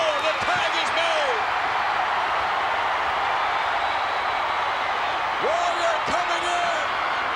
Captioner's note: applause